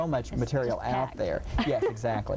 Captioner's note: laughing